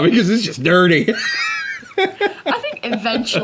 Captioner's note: laughs